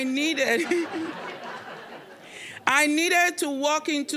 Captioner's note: audience laughing